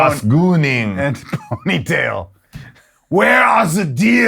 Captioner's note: laughs